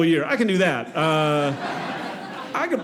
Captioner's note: audience laughing